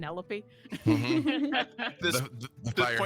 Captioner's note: group laughing